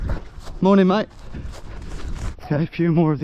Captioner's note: none